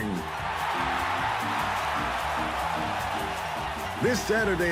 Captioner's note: cheers and applause